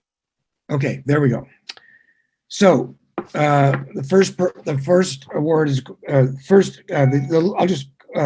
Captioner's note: mumbling